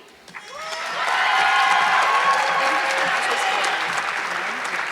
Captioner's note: audience clapping